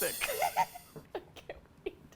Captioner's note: laughs